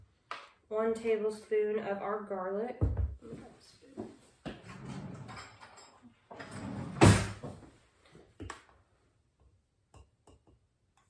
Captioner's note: drawer rolls open and shut